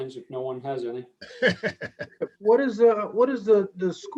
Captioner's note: chuckling